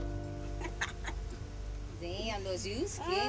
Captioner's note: laughing